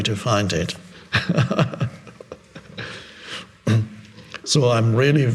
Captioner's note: Eckhart laughing